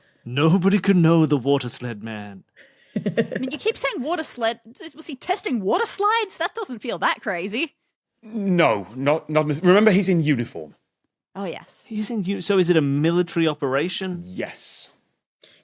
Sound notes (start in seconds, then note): 2.9 giggles